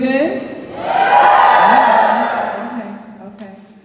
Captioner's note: cheers